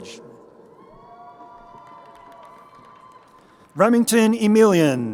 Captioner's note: crowd cheering